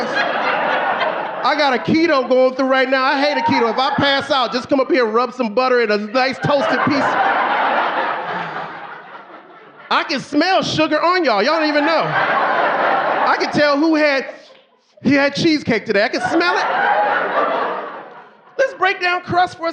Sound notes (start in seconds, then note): 0.0 audience laughing; 8.8 audience laughing; 13.1 audience laughing; 14.4 sniffs; 18.1 audience laughing